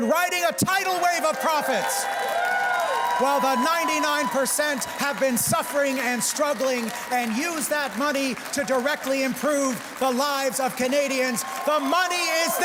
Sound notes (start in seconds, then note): 5.5 cheers and Applause